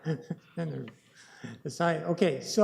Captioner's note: laughs